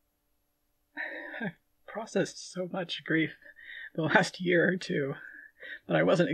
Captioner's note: laughing